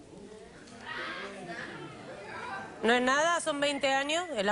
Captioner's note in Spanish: Comentarios del público